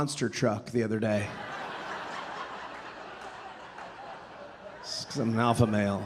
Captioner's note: audience laughing